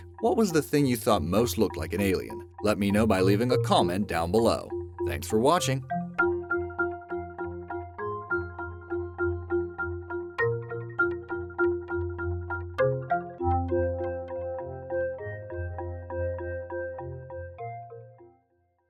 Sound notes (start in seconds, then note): 5.0 bells chime; 13.8 soft music